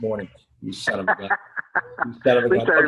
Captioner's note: laughs